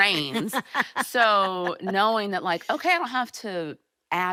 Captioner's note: laughing